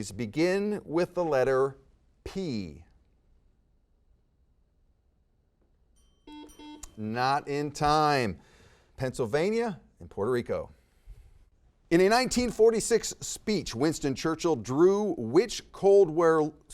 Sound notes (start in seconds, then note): 5.9 timer chimes; 6.2 buzzer beeps